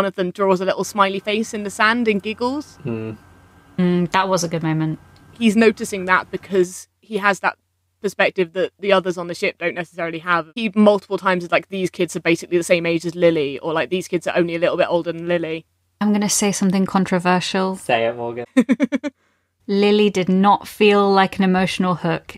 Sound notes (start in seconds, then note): 18.4 laughs